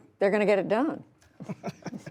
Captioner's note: laughter